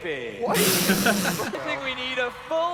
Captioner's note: laughing; scoffing